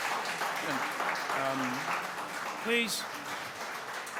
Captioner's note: applause